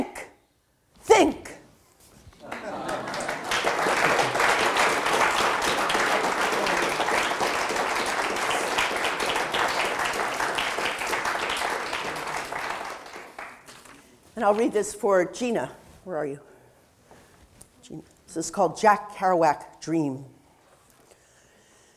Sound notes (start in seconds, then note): 2.4 audience applause